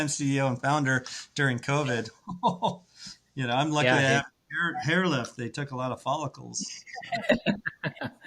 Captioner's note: laughs